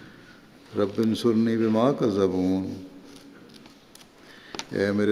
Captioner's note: Arabic